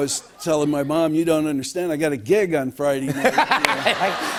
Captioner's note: laughter